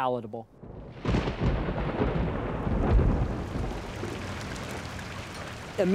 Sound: thunder, raindrops

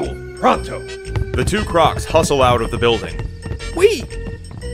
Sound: footsteps on wood trail off

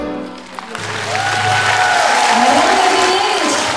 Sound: applause

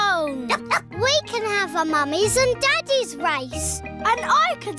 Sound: barks

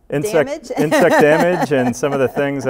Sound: laughs

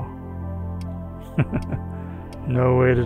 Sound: chuckles

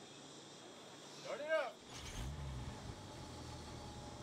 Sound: vehicle engine starts

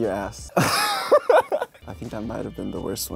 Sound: he laughs

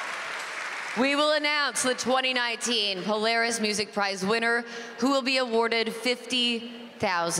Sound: cheers and Applause

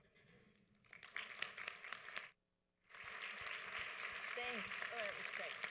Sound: audience applauds

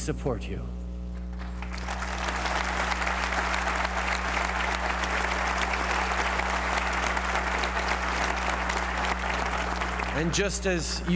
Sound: applause

